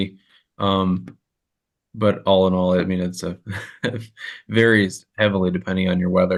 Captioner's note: laughter